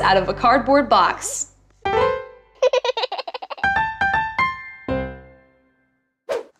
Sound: baby giggles

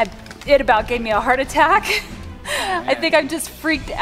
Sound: laughs

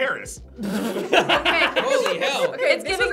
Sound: group laughs

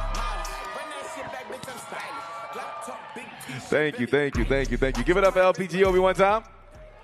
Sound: cheers and applause

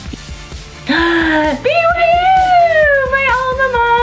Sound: gasps

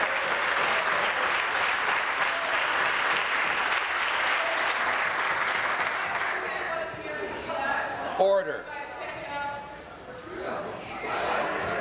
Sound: applause

